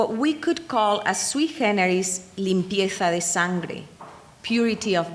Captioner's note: speaking in foreign language